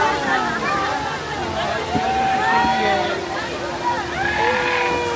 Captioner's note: crowd murmuring